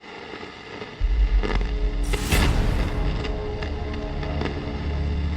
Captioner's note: static